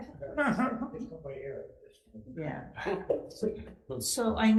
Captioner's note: chattering; laughing